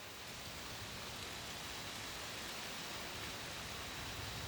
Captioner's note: wind hissing